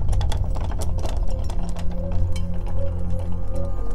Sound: wheels rolling

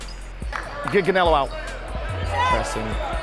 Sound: overlapping chattering

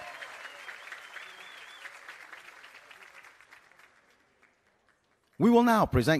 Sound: applause and Cheering

